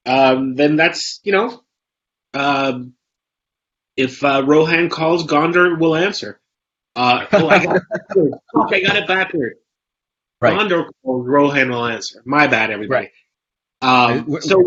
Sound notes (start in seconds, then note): 7.0 laughs; 7.3 Jose's mic warbles